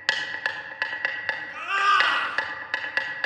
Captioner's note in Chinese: 大喊